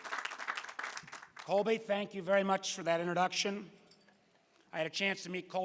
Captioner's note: applause